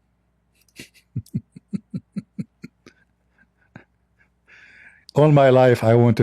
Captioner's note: Ketawa